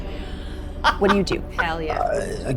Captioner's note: laughs